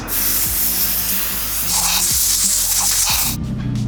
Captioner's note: sprays; engine hums